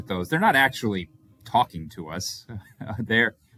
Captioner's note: chuckles